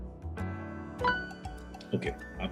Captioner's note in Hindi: नोटिफ़िकेशन की आवाज़